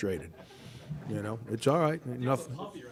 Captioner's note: audience laughter